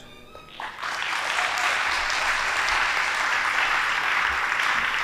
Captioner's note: audience applauding